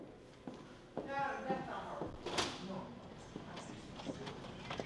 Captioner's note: footsteps thumping